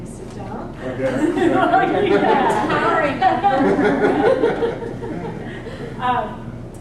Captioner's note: laugh